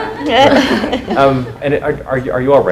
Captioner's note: laughs